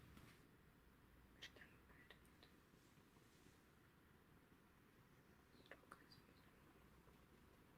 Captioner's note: reads in a whisper